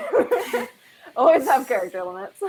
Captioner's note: laughing